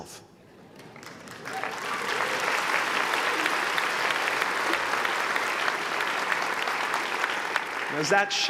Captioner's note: applause